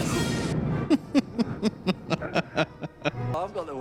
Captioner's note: laughing